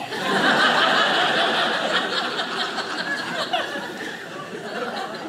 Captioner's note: audience laughing